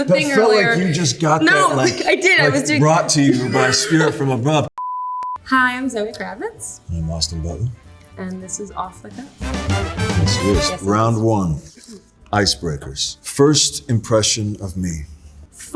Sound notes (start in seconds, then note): 4.8 tone beeping; 7.2 upbeat music